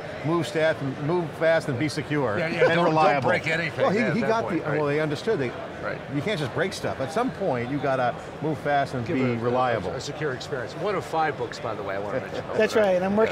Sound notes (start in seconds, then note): 2.4 laughing